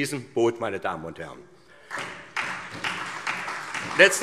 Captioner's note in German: Beifall SPD